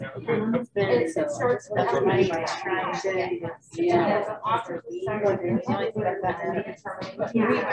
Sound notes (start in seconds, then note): 0.0 group chatting